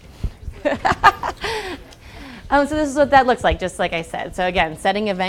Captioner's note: laugh